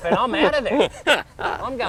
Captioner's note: laughs